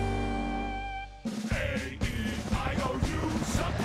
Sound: music ends; chanting

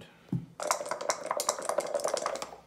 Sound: dice shaking

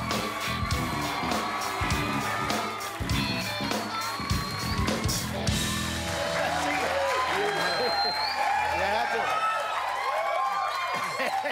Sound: cheers and applause

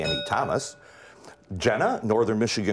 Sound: bell rings

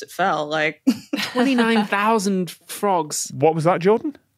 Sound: laughs

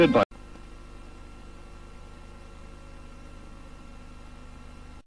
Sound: VHS static

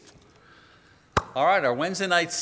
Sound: claps hands

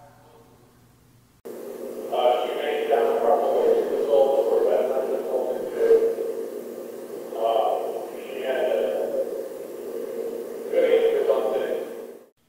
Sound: amplified Speaking

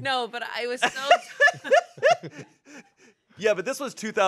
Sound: laughs

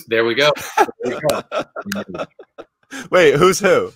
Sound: laughs

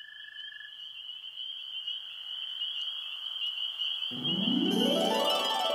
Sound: crickets chirping

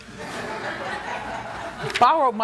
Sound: laughter

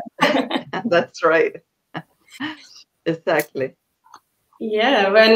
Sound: laughs

